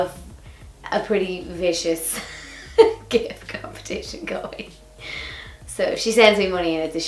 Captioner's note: laughs